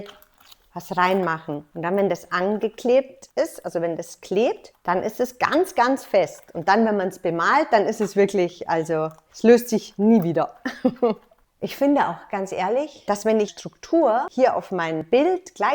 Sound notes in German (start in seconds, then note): 10.6 lacht